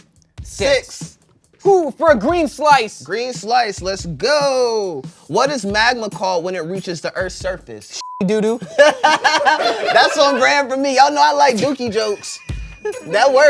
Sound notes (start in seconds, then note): 8.0 beep; 8.6 everyone laughs